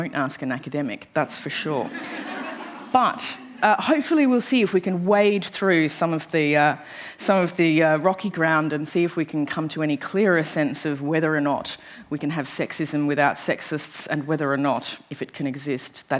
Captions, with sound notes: That's for sure. [ Laughter ] But - - hopefully we'll see if we can wade through some of the - - rocky ground and see if we can come to any clearer sense of whether or not we can have sexism without sexists and whether or not, if it can exist.